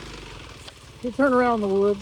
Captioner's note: motor rumbling